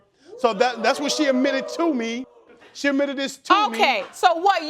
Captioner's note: audience whooping